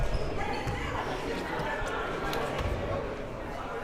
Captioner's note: crowd murmuring